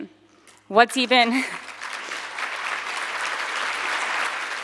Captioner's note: audience clapping